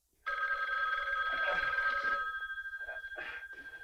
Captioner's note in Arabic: رنين الهاتف; ديفيد يتأوه